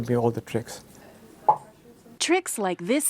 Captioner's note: game popping